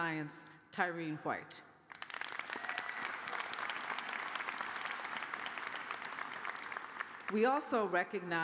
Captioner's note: cheers and applause